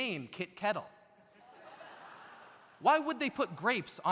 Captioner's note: audience laughs